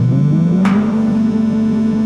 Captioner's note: popping noise